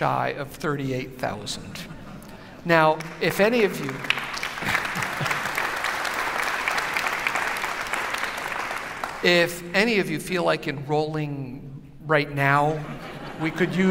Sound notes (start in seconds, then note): 2.9 applause; 12.8 laughter